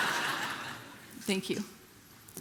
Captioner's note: congregation laughing